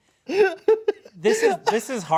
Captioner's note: laughing